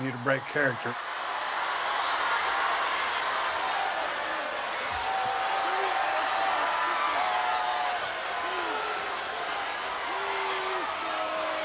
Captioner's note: applause